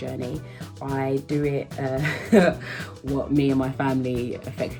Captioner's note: laughing